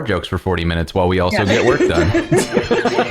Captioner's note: laughter